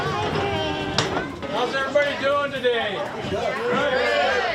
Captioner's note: train engine